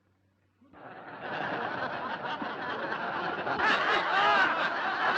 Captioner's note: audience laughs